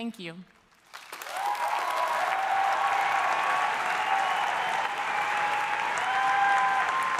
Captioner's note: audience applauding; audience cheering